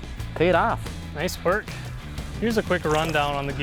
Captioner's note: pat